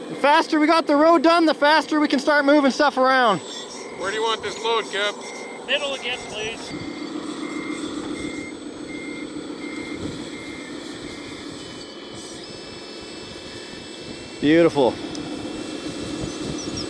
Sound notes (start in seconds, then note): 7.8 truck beeping